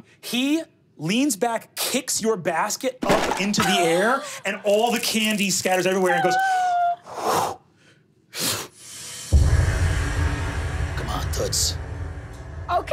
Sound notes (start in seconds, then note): 6.9 whooshing